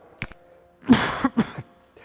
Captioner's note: he coughs